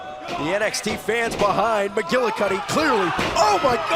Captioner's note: crowd cheering